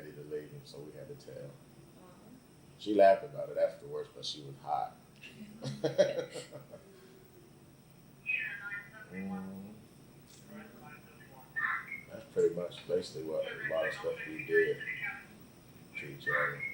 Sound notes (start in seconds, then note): 5.6 both laugh; 6.7 radio in the background